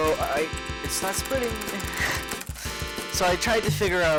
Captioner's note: subtly laugh-cries